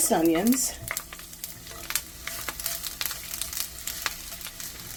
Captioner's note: food sizzling